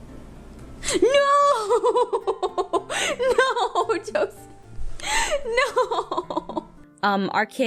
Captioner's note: laughs